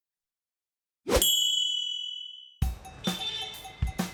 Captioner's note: bell dings; upbeat music